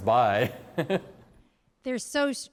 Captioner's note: laughter